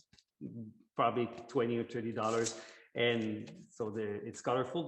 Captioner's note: object rustles